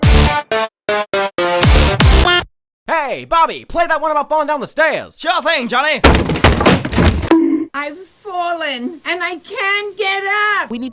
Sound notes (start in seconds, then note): 6.0 tumbling sounds; 7.3 bonk